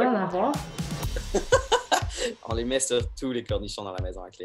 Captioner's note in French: rires